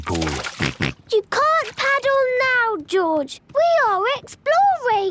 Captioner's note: George snorts